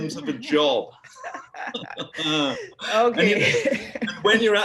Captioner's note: laugh